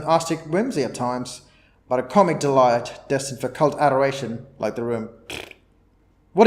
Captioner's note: raspberry